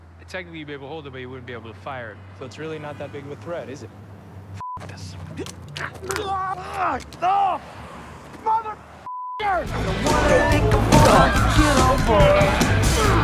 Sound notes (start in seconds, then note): 4.6 beep; 5.3 bones crack; 5.8 man screams; 9.0 beep; 9.6 rock music plays